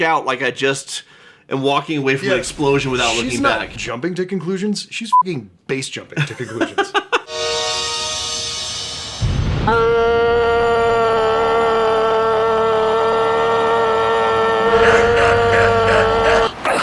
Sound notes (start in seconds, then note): 5.2 beeping; 9.8 dramatic noooooooo